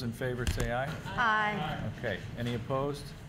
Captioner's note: chorus of ayes